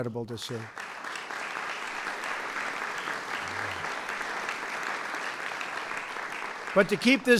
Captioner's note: applause